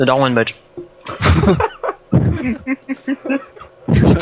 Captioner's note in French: Rire